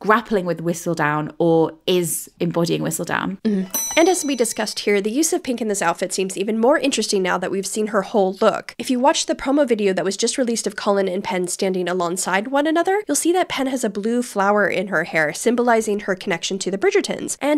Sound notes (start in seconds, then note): 3.7 bell dings